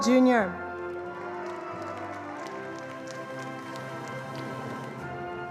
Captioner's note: attendees applauding